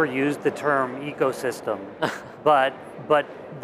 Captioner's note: chuckles